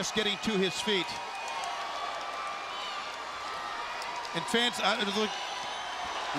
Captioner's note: crowd cheering